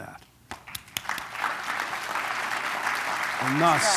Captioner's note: applause